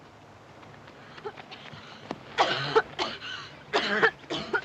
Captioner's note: coughs